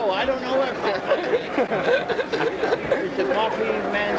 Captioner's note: laughter